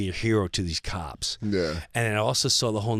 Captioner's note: laughing